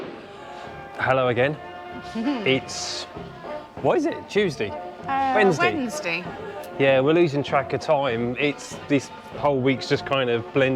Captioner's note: laughter